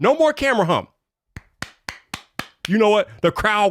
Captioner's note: claps